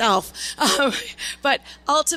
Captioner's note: laughs